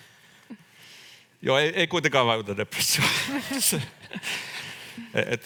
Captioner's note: naurahtaa